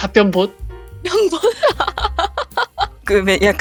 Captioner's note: laugh